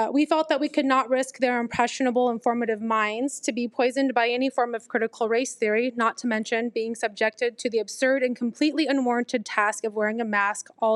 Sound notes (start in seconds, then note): none